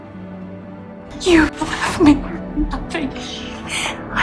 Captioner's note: voiceover